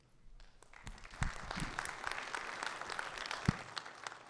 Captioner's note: audience clapping